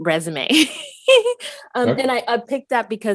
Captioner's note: laughs